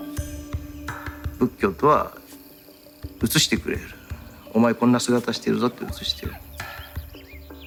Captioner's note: speaking japanese; birds chirping